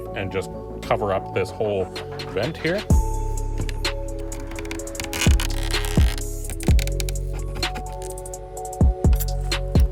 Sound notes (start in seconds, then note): 5.0 plastic creaking